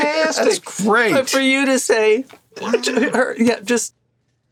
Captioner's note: laughs